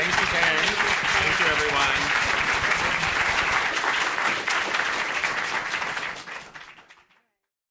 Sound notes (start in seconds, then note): 2.9 audience applauding